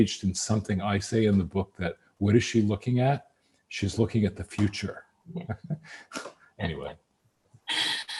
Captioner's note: laughs; laughs